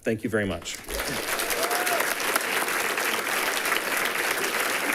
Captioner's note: people clapping